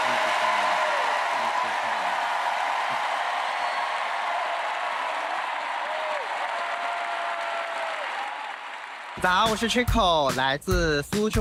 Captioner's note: cheers and applause